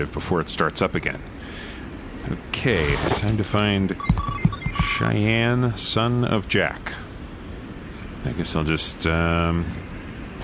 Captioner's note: dialing into keyboard